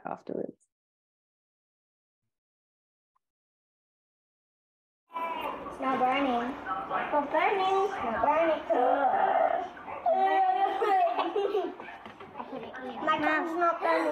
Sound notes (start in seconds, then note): 1.0 sounds in video of children’s activity, children and adults talking